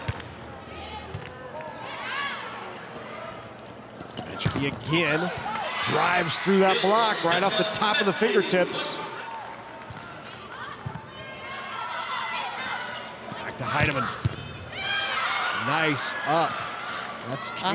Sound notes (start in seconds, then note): 0.2 ball thumping; 1.3 players shouting indistinctly; 9.3 ball thumping; 11.2 players shouting indistinctly